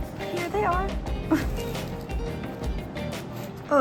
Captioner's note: laughs